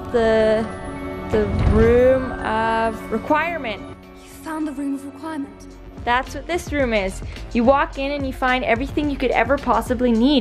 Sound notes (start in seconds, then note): none